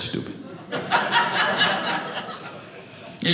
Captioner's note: audience laughing